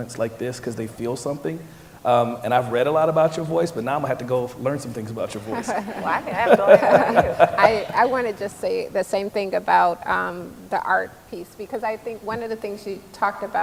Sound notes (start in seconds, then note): 5.4 laughter